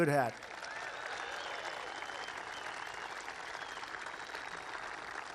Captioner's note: applause